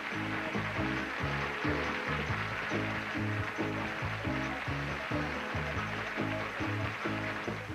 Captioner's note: audience applauding